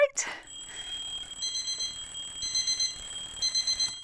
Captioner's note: alarms beeps